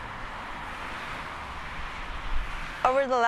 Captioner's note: traffic noise